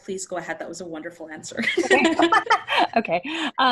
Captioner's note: laugh